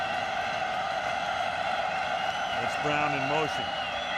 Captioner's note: cheering